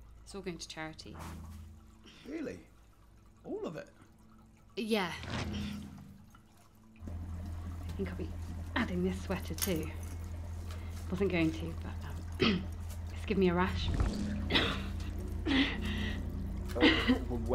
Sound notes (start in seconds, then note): 5.0 sweater ruffles; 12.4 clears throat; 16.7 coughing and gasping for breath